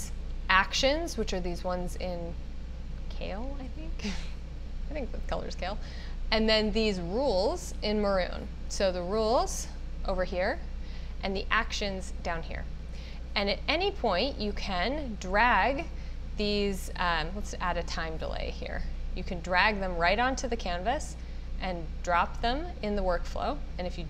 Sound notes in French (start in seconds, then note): 3.8 rires